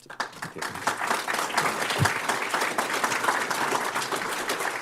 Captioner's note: applause